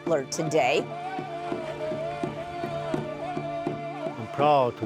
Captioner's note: chanting in native language